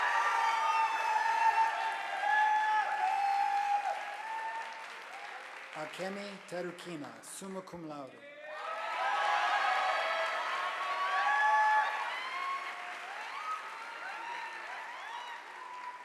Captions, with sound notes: Akemi Tarkinas summa cum laude, (audience applauding)